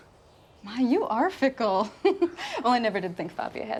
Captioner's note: laughs